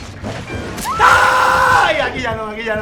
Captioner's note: spanish "Ah"